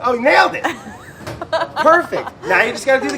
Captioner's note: laughing